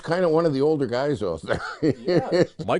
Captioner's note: laughter